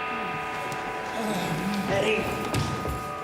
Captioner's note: groans